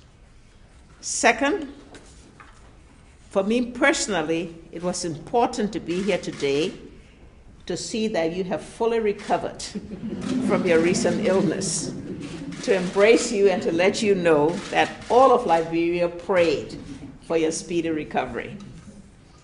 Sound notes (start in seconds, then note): 9.7 laughter